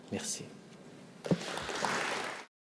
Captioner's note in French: Applaudissements